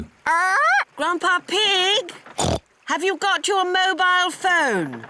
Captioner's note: polly squawks; oinks